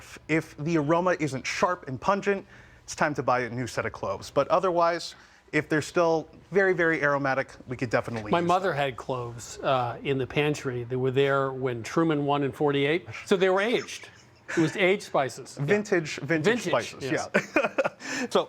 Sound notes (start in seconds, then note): 13.7 laughs